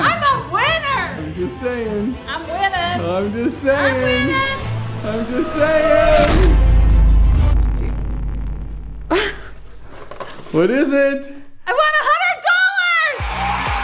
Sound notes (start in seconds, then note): 9.1 chuckling